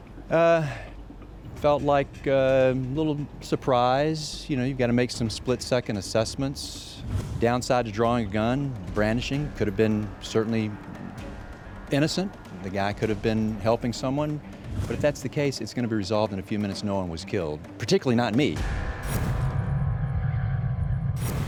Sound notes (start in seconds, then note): 6.8 whooshing; 18.5 dramatic tone; 18.6 whooshing; 21.2 shots firing; 21.3 whooshing